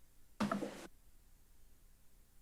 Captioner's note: rustles